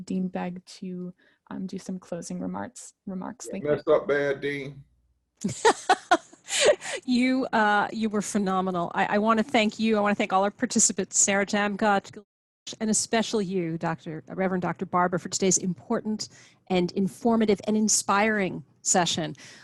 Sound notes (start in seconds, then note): 5.4 chuckles